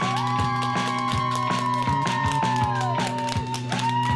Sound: cheering and applause

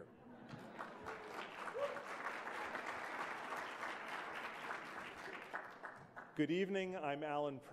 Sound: applause

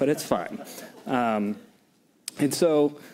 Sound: laughter

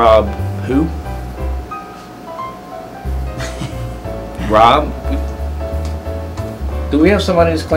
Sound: laughter

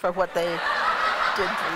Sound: laughter

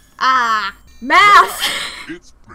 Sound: giggles

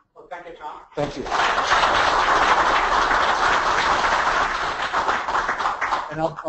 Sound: applause

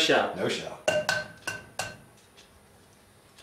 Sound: egg tapping noise

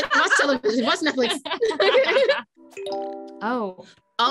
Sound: laughing

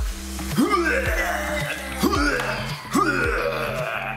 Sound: heaving

